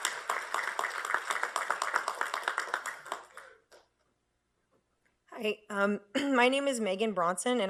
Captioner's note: applause